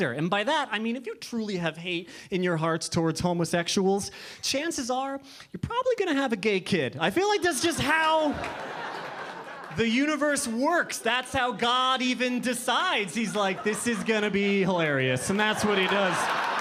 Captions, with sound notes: And by that I mean if you truly have hate in your hearts towards homosexuals, chances are, you're probably gonna have a gay kid. I feel like that's just how, (audience laughing) the universe works. That's how God even decides. He's like, this is gonna be hilarious and that's what he does.